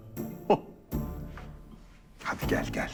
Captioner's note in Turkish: Gülme sesi